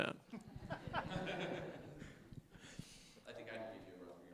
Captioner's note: laughter